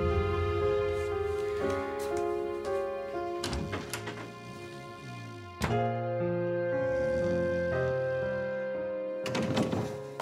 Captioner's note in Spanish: Ronquidos